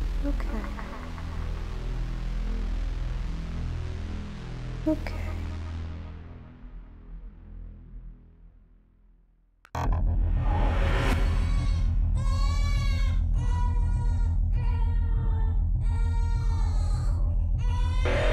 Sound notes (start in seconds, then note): 0.2 echoes; 5.3 echoes; 9.6 mysterious etherial whooshing; 12.2 distant baby crying